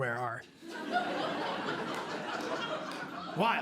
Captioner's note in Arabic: ضحك